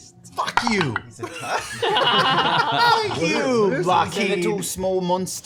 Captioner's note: laughter